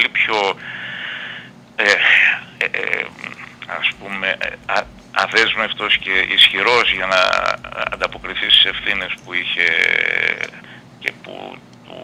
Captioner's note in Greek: χαχανίζει